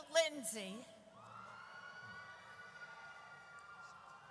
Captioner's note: audience cheers